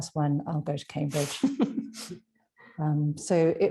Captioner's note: laughs